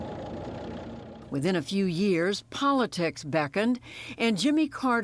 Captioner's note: voice-over